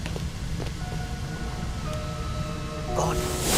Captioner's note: electronic alarm